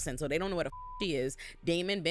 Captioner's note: beep